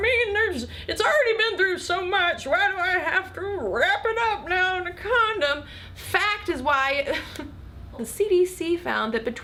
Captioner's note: laughs